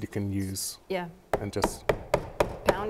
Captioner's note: hammer thuds